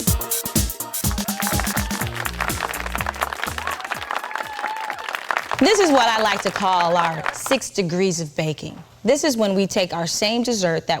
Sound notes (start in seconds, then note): 1.0 audience applauding and cheering